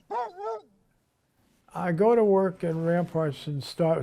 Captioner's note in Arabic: نباح الكلب